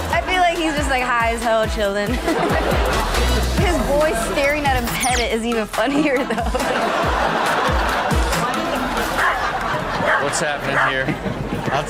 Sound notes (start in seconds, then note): 5.8 audience laughs; 10.6 dog barking